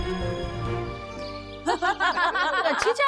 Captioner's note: laughing